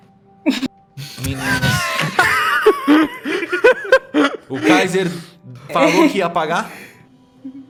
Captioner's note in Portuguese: Risos